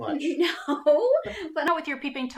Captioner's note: chuckles